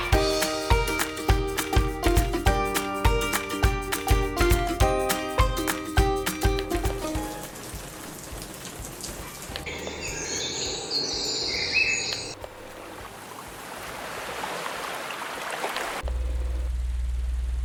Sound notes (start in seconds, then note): 7.2 rain noise sound effect; 9.6 bird noise sound effect; 13.0 ocean waves sound effect; 16.0 fan noise effect